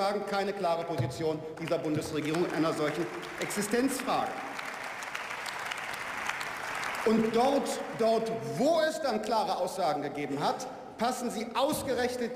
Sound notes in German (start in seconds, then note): 5.5 Beifall